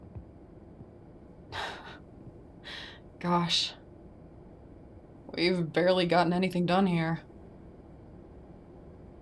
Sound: chuckles softly

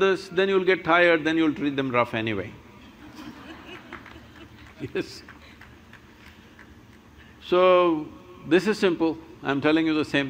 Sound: laughter

